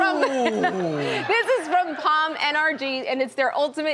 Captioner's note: laughs